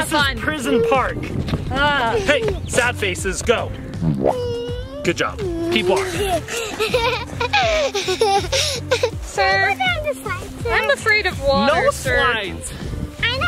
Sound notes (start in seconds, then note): 7.4 laughs